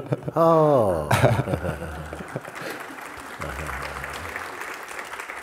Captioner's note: applause